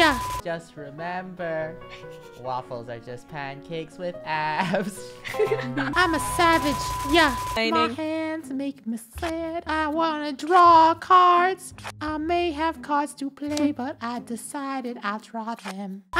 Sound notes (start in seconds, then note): 1.7 snickering